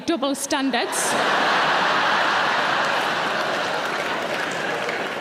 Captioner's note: audience laughing